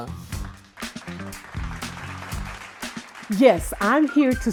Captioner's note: audience clapping